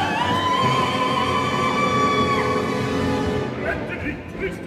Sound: Brangäne utters a piercing shriek

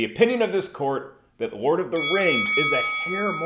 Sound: bell ringing

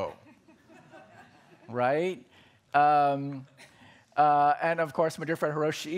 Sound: laughter

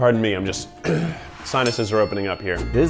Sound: clears throat

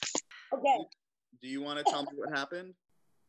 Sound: coughing

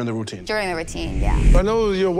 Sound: wind whooshes

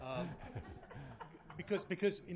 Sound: laughter

